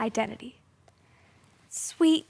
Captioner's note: rustling